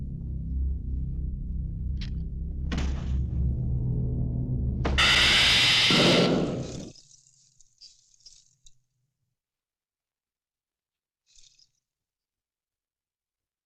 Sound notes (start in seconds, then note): 2.9 body thudding; 4.8 ceiling thudding; 4.9 electric zapping